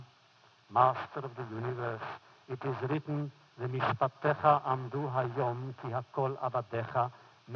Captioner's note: foreign language